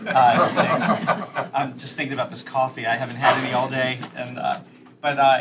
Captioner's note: laughter